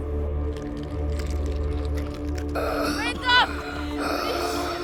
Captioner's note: crunching; wheezing